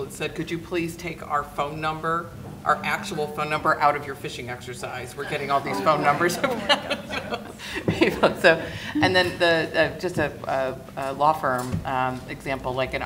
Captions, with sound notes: and said, "Could you please take our phone number, "our actual phone number, out of your phishing exercise? "We're getting all these phone numbers." (laughing) And then, just a law firm example.